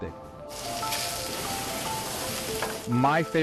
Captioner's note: sizzling